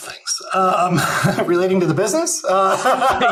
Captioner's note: laughs